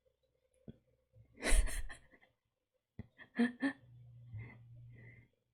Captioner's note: laughs